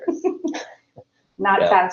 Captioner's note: laughs